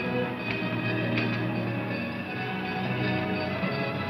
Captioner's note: trolley bells ringing